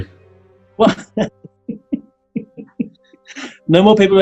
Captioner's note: chuckling